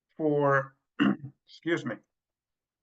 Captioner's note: coughs